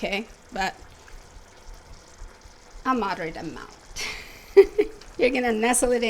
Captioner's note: laughs